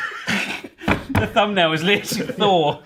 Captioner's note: laughing; mallet banging on toastie maker